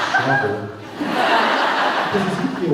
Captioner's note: laughs